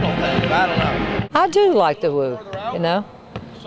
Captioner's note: pat